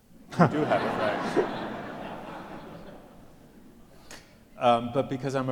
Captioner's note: audience laughs